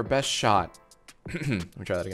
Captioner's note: cough